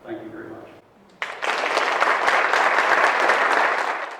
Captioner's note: applause